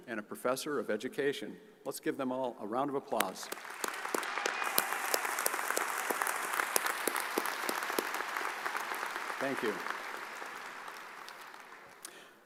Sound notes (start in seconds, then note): 3.4 audience applauds